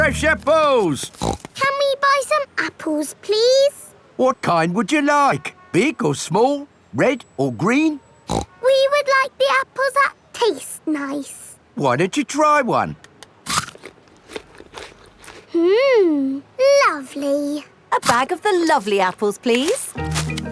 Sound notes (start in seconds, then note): 1.0 snorts; 8.3 snorts; 13.4 crunches